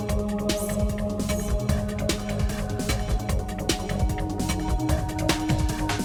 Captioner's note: lady whispering "secrets"